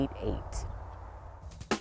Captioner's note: upbeat music; birds chirping